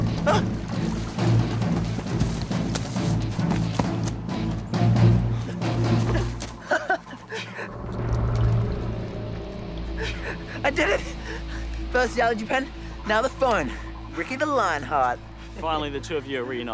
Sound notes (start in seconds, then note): 6.0 chuckles